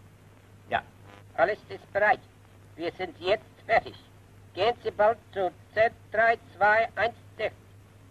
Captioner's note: transmitting in German